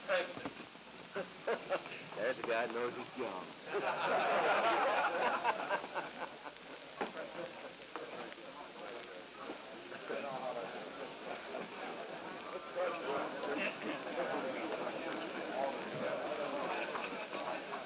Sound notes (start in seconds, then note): 3.6 laughter; 7.1 background conversations